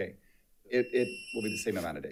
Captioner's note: alarm chiming